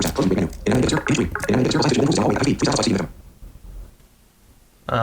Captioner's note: extremely fast speaking